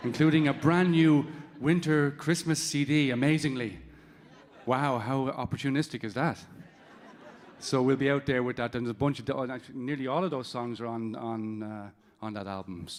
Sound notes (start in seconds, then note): 6.6 audience laughing